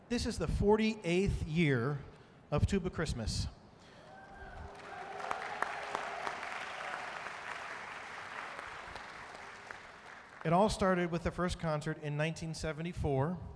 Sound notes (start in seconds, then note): 4.1 audience cheering and applauding